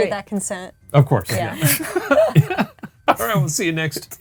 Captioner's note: group laughing